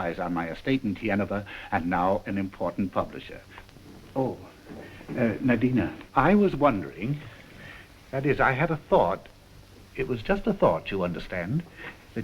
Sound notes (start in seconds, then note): none